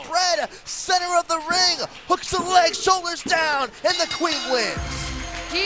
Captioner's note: bell ringing